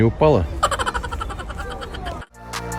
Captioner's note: laughter